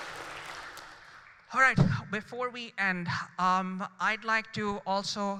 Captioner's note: applause